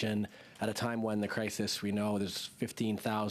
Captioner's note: speaking French